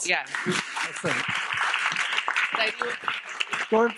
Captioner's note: audience clapping